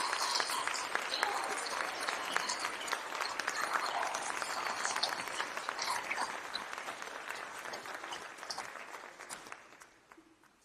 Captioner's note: applause